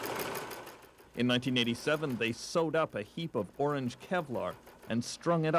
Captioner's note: machine whirring